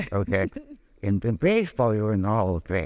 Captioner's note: laughing